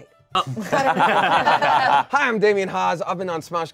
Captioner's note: everyone laughs